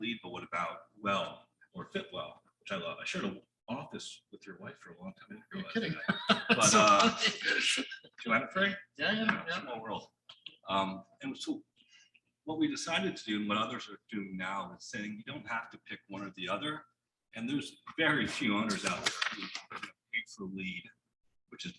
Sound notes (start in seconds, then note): 5.6 laughing